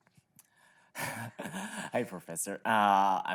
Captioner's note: laughing